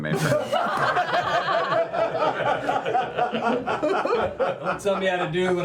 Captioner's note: laughter